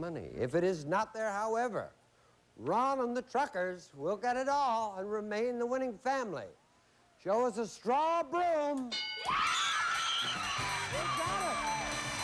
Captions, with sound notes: IF IT IS NOT THERE, HOWEVER, RON AND THE TRUCKERS WILL GET IT ALL AND REMAIN THE WINNING FAMILY. SHOW US A STRAW BROOM. [CHEERS AND APPLAUSE] THEY GOT IT.